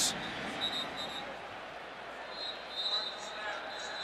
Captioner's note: whistling